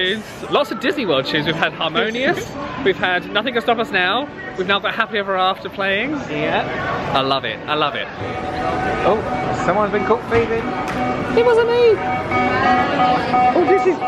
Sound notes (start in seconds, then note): 8.4 security barrier bleeping